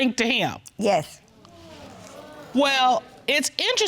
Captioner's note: audience sighing